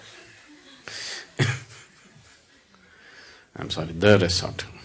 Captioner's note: laughter